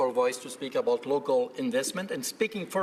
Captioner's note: speaking French